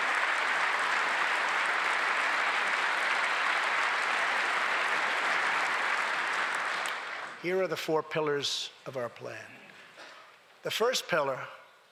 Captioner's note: applause